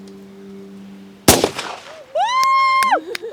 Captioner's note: gun shot; women cheering; laughing